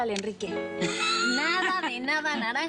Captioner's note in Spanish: Risas